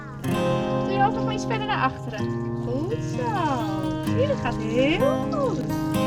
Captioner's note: speaking foreign language